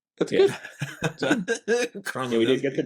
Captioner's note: laughter